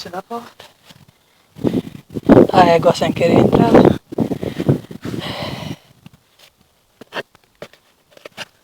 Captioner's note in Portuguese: respiração profunda